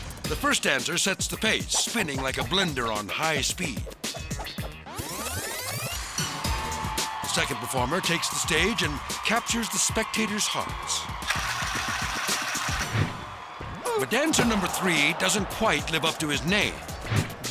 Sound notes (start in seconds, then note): 4.4 legs whooshing; 6.3 crowd cheering; 11.3 crowd cheering